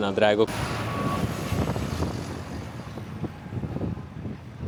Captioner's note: traffic sound